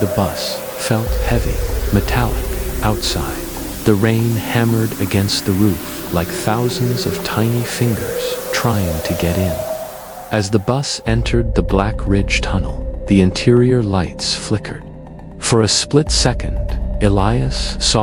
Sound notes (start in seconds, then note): 0.0 dark Ambient music; 7.8 rain and wind howling; 15.8 dark Ambient music